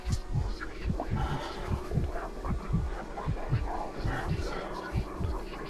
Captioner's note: mysterious whispering voices